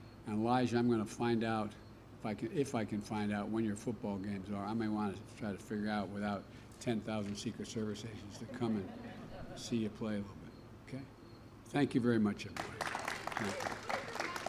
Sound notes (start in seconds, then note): 8.3 laughter; 12.5 applause